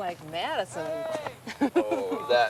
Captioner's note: laughing